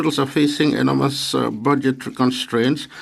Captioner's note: speaking French